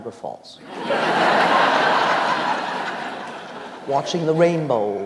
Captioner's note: audience laughs